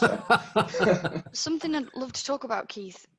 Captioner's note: laughs